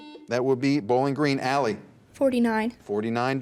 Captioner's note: buzzer beeps